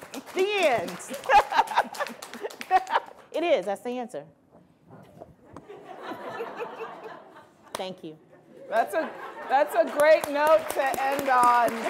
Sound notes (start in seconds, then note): 0.0 applause; 5.4 laughing